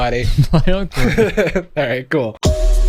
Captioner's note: laughs